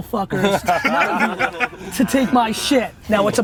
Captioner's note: laughs